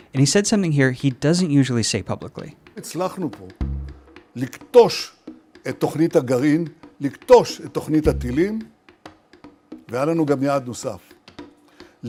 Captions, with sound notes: And he said something here he doesn't usually say publicly. (Netanyahu speaking in foreign language)